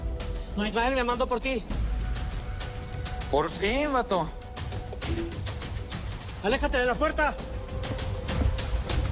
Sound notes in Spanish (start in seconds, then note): 6.0 Pitidos